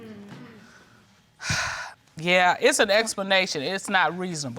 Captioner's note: exhales